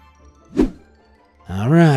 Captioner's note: image whooshing